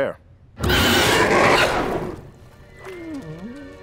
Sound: gobbler roars; gobbler whines

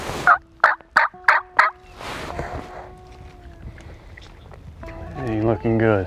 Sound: bird call

